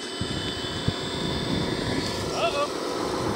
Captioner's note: truck engine roaring